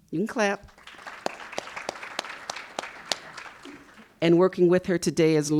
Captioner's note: audience applauding